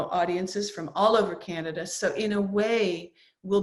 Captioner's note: none